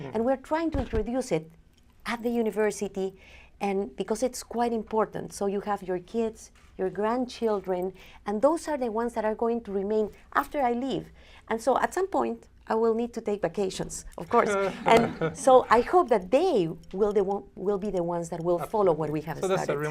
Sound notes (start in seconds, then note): 14.6 laughter